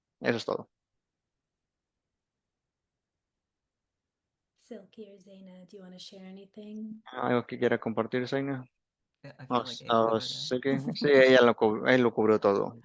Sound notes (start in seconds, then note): 5.6 hablando inglés